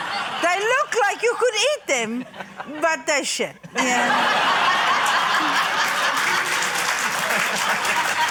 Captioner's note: laughter, applause